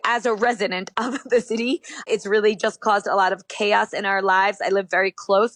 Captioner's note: chuckles